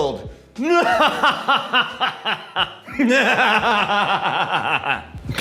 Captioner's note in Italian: evil laugh